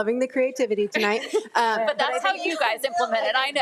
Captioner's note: member laughing